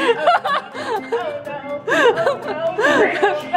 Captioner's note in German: lacht